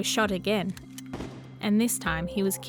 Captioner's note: gun bangs